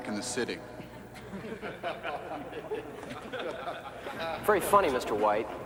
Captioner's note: all laughing